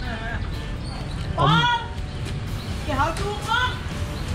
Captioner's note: speaks foreign language